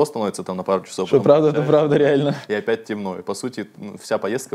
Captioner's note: laughs